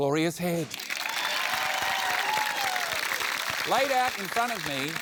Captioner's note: cheering, applause